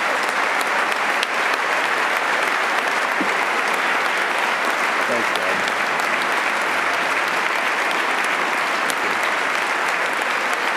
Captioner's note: applause